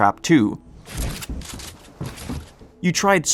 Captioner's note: editing sounds